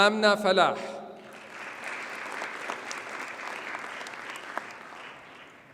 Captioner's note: audience applauds